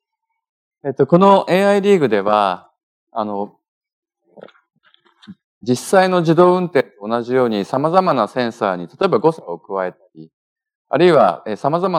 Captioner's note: speaking japanese